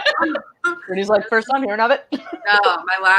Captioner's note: laugh; laughs